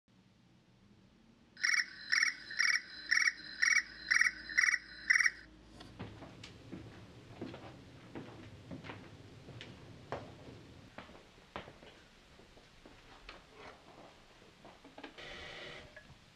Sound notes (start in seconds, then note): 1.6 alarm ringing